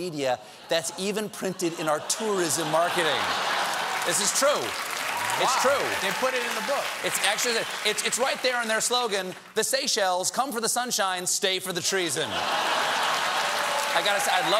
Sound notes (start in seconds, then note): 3.2 cheers and applause; 3.2 laughter